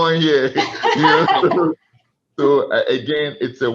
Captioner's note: laughs